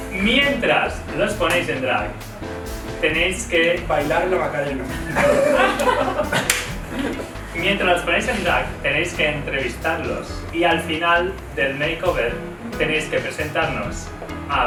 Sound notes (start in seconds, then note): 4.7 they laugh